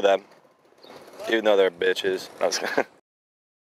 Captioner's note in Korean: 웃음